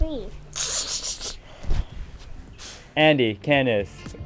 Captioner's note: snickering